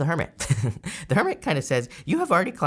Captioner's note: laughs